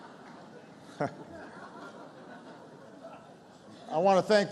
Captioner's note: laughter